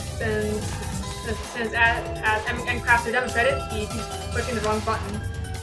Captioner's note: stammering